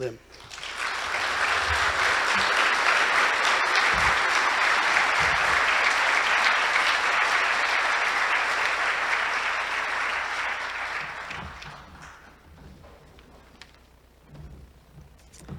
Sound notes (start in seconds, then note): 0.3 applause